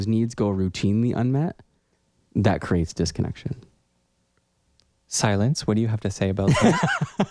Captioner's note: laugh